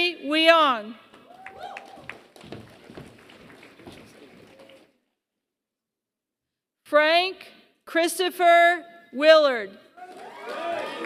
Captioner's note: applause; applause